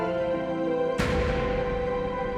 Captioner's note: door slams shut